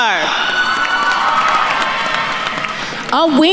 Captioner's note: attendees cheering and applauding